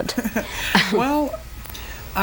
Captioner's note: both laugh